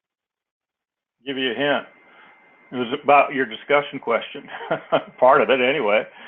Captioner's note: laugh